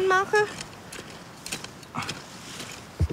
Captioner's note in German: Ächzen